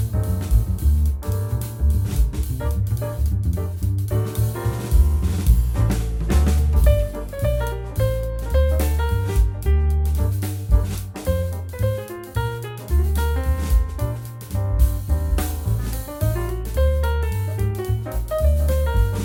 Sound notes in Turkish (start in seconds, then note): 13.9 çıt